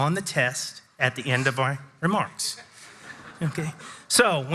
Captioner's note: audience chuckles